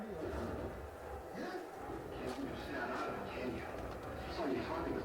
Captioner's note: street life chattering